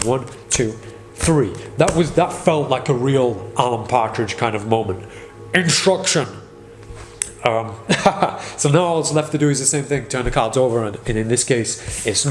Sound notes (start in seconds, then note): 7.8 laughing